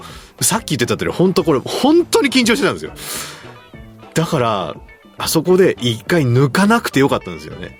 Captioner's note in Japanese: 鼻息